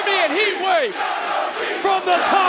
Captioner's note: crowd chants "Young OG"